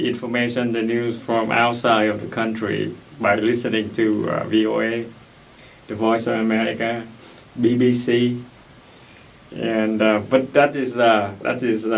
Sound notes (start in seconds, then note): none